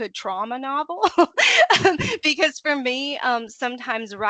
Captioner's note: laughing